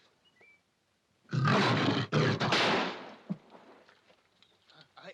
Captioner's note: panther roars; gunshot